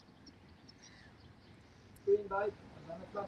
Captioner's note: birds chirping